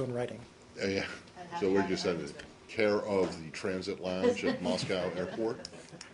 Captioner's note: laughter